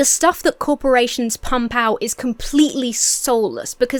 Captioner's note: none